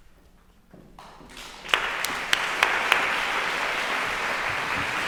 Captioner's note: audience applauding